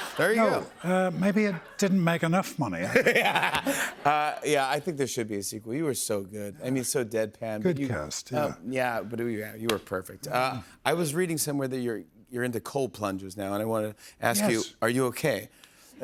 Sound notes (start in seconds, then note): 2.9 laughs